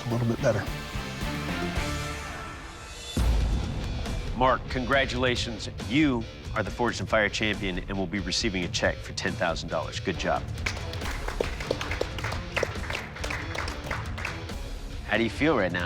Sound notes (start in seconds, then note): 10.5 applause